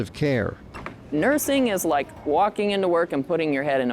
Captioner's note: door squeaking